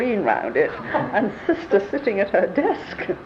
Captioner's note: laughs